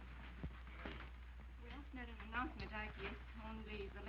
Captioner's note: quietly